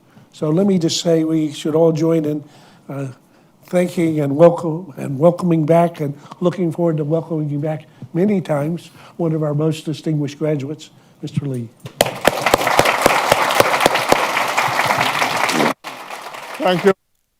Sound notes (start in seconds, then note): 12.0 applause